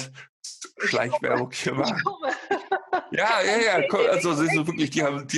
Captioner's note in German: beide lachen